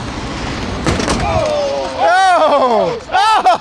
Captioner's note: crowd